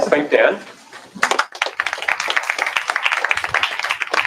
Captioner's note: applause